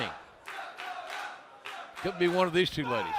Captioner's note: fans chanting